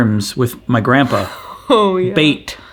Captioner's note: laughs